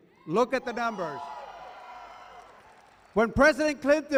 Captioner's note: cheering